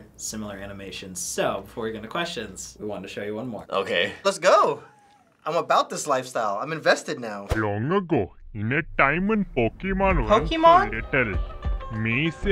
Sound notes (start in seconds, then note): 7.5 broken English; 10.7 voice-over